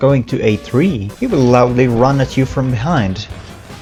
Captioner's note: loud footsteps